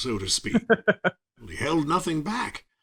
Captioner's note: laughing